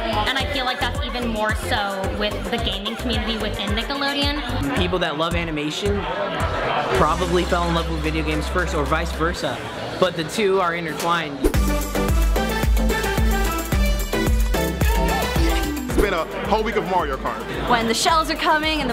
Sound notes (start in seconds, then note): 11.5 EDM music continues; 14.4 shouting